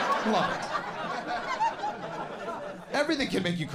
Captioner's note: audience laughs